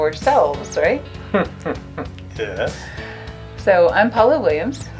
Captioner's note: laughs